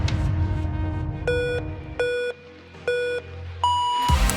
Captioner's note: timer beeps; electronic music